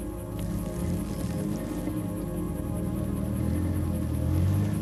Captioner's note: car engine revving